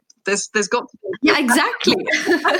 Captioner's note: both laugh